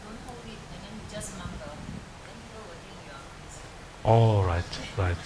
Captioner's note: woman talking in the background